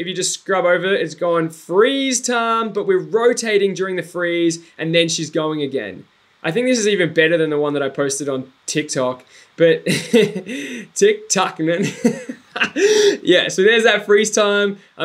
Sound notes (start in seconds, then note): 11.8 giggles; 11.8 laughs